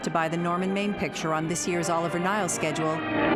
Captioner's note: none